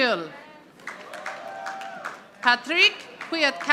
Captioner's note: audience applauding